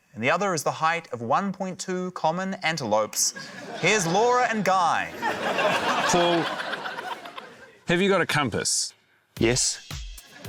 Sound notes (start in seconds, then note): 5.0 laughter